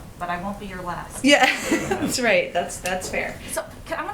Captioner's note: laughs